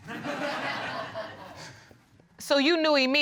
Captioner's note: audience laughing